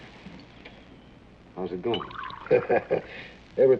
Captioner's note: chuckles